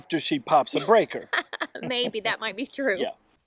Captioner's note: laughing